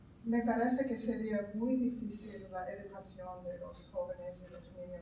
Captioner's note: speaking in Spanish